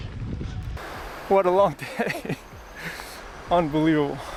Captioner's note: laughing